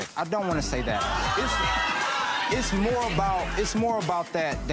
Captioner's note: laughing